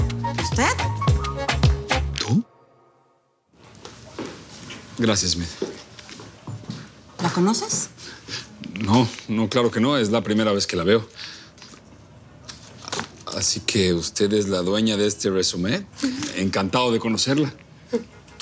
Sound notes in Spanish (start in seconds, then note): none